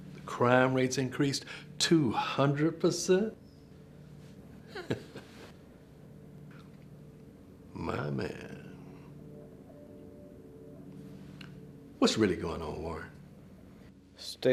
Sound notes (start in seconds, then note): 4.6 Stillman chuckles